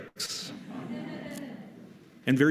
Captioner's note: laughter